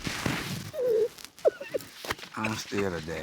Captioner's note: sobbing